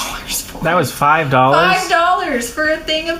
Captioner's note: scoffing; astonished